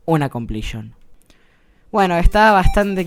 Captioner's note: awkward pause